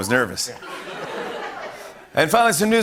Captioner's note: laughter